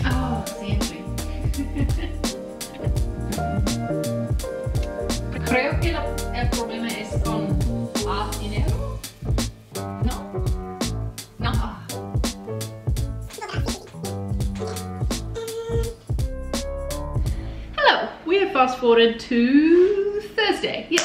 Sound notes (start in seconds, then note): 1.5 laughs; 2.8 upbeat music continues; 5.7 speaking foreign language